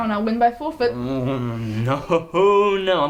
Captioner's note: groans